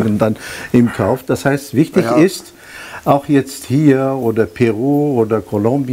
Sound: is laughing

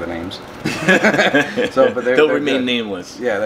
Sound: laughing

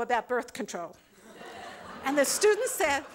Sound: laughter

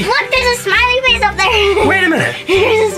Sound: laughs

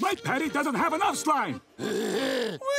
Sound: laughing

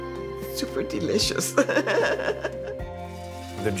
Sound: laughing

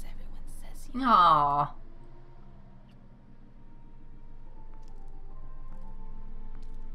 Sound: none

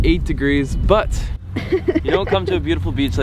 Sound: laughing

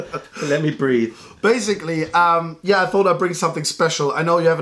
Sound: laughter

